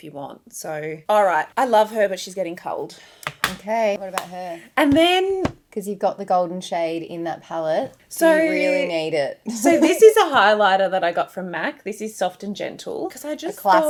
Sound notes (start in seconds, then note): 3.2 makeup clanks